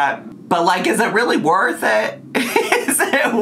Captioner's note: laughs